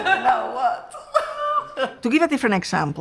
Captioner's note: both laughing